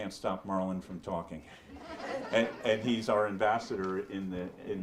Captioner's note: audience laughs